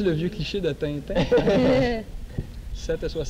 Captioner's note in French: rires